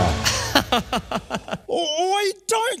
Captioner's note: laughing